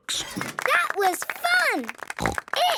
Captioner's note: applause